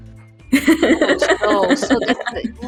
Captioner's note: laughter